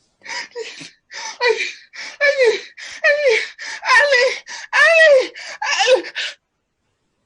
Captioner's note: hysterical